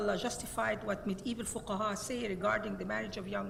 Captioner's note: speaks Arabic